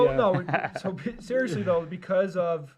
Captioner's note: laughs